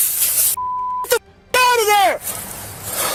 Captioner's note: beep